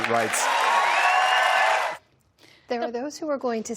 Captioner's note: cheering